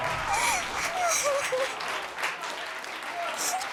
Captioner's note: crying